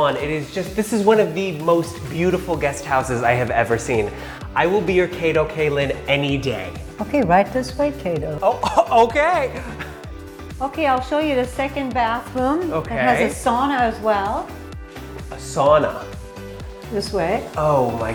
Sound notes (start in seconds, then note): 9.6 short laugh